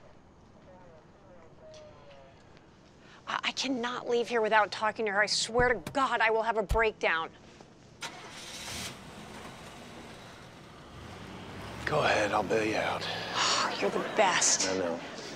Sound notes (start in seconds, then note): 8.0 engine starts, vehicle departs